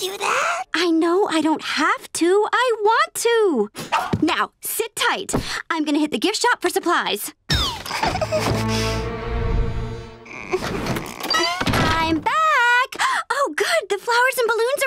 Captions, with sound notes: I know I don't have to, I want to. Now, sit tight. I'm gonna hit the gift shop for supplies. [whimpering] [groaning] I'm back! [gasping] Oh, good, the flowers and balloons arrived.